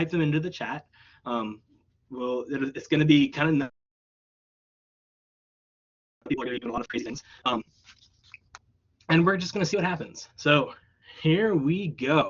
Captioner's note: audio blub